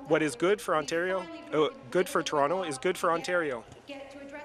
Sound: speaking in French

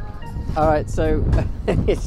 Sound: laugh

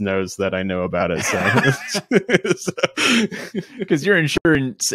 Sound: laughing

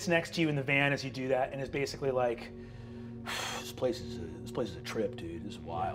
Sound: sighing

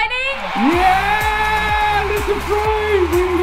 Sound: crowd cheering

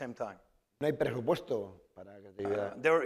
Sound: speaking spanish

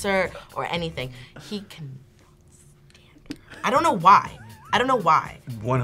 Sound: whispers

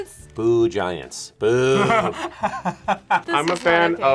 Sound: laughs

